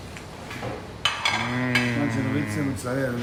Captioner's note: plate clanking; speaking in foreign language